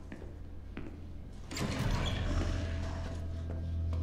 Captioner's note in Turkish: Kapı sesi